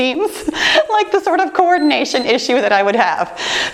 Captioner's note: timer beeps